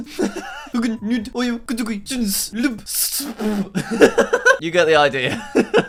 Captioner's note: laughing; laughing